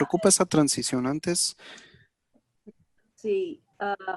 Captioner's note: speaking in Spanish